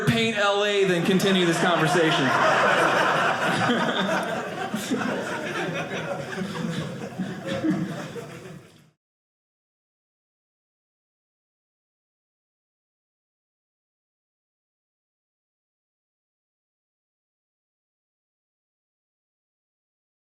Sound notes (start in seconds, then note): 2.7 audience laughing